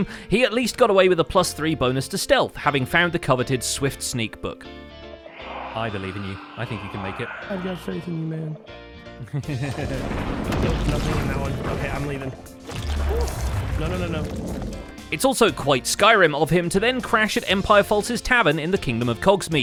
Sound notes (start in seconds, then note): 5.2 Shriekers shriek; 9.4 chuckles; 9.8 explosions